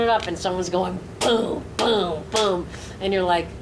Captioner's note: imitates bass drum